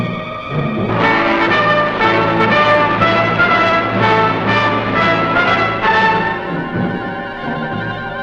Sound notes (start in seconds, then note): 0.1 dramatic music; 0.6 tank engine rumbling